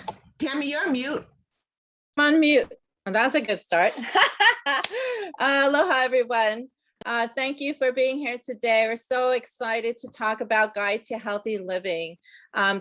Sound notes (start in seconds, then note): 4.7 laughing